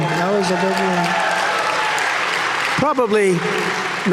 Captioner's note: audience cheering